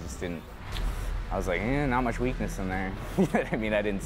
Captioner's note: laughs